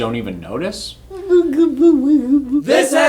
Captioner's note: babbling